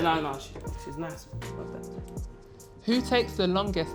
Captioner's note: whispers